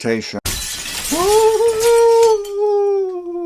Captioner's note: glass breaking